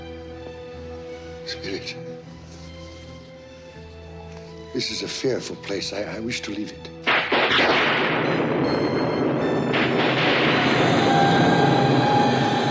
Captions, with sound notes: Spirit. This is a fearful place. I wish to leave it. [Thunder]